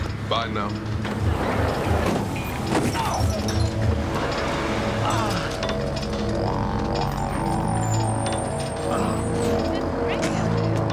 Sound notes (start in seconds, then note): 3.2 grunting; 4.8 groaning